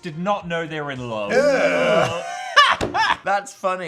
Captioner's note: laughing